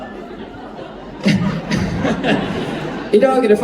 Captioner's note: laughs